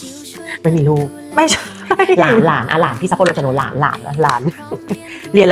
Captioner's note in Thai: เสียงหัวเราะ